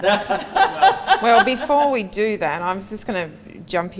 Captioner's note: both laugh